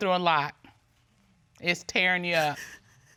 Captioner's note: sniffles